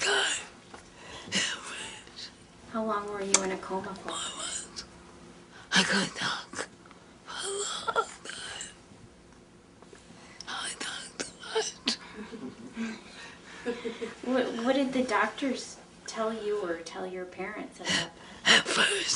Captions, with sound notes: How long were you in a coma for? (laughing) What did the doctors tell you, or tell your parents?